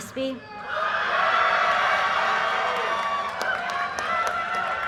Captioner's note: audience cheers and applause